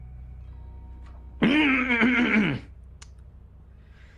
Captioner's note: clearing of the throat